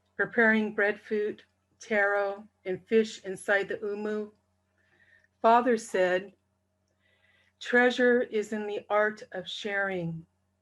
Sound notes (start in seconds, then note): none